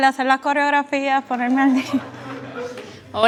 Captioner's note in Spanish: risas